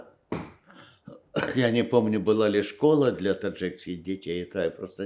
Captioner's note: coughing